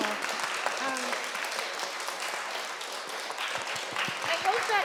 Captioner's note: applause